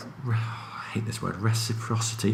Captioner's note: sigh